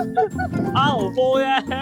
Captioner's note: car reverses